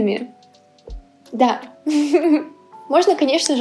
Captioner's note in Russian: хихих